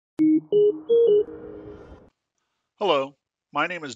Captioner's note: beeping